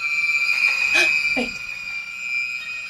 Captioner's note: sharp gasping